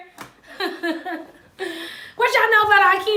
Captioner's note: laughs